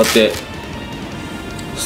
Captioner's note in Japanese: マジックテープをはがす音